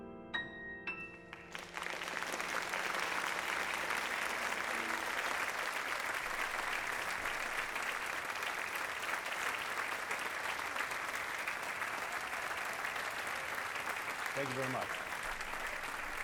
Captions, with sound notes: [APPLAUSE] Thank you very much.